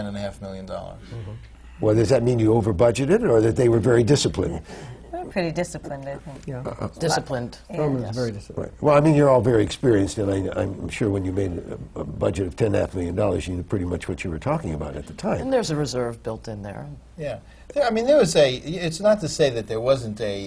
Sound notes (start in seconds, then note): none